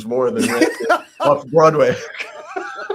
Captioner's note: laughs